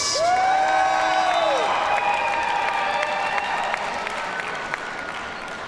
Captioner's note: audience cheers and applauds